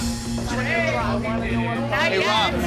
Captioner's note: dramatic music; bar patrons chattering loudly